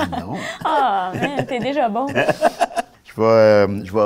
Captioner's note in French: rire